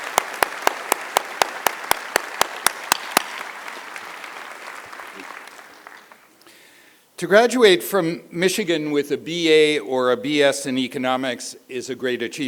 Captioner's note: applause